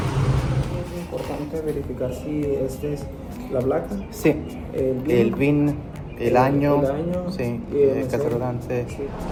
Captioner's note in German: auf Spanisch